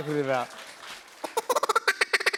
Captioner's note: applause; duck call